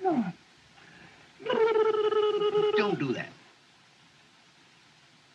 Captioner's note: babbling